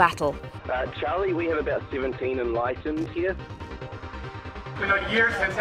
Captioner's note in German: Voiceover